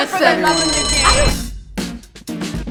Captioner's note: bell chiming; synth music